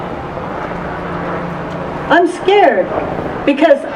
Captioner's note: none